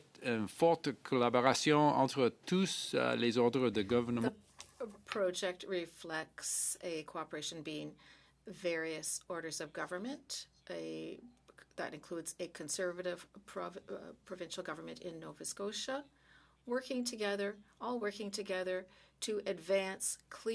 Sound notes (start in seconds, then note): 2.7 speaking French